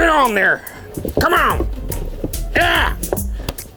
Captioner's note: hat rustling